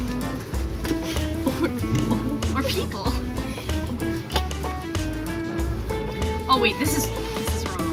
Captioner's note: laughing